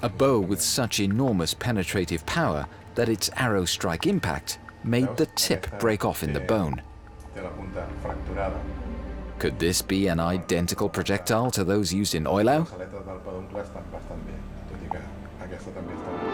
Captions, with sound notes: A bow with such enormous penetrative power that its arrow's strike impact made the tip break off in the bone. [speaking German] Could this be an identical projectile to those used in Eulau?